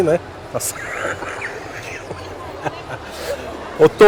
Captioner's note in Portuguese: risos